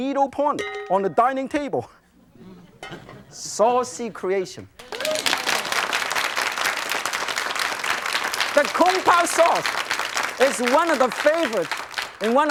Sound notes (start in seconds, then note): 2.2 crowd laughs; 4.2 crowd applauds